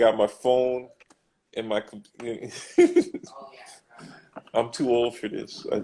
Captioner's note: laughs